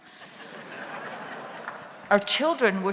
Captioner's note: audience laughs